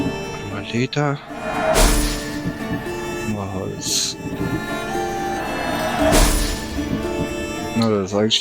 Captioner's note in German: schnauben